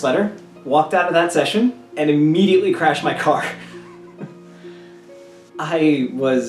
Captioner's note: laugh